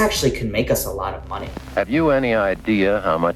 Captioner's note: soundbite of archived recording